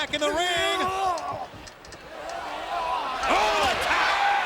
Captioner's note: crowd exclaiming; wrestlers grunting